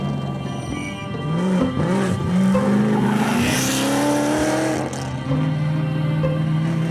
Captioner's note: dramatic music; engine revving